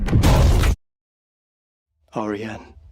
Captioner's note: sound drops out